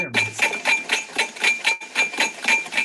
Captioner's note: machines clanking